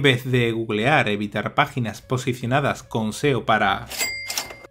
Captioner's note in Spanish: sonido dinero